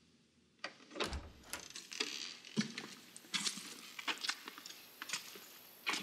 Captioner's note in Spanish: sonido al abrir la puerta